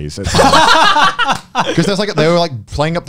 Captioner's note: laughs